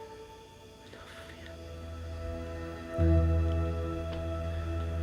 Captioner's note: sighs